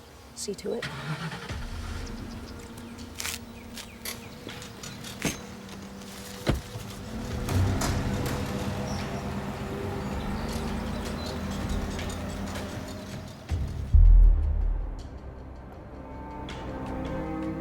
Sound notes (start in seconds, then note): 0.8 engine starting; 3.1 tense music; 6.3 car door closes and engine hums; 13.6 tense music continues